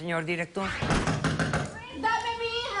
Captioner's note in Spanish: toques en la puerta